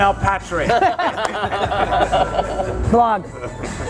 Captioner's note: laughs